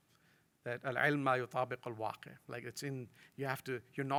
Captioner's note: speaks in foreign language